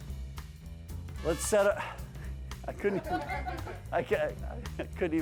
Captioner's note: laugh